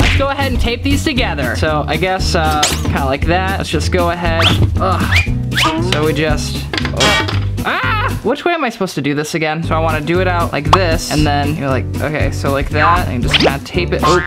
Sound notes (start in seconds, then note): 5.3 grunts; 7.6 screams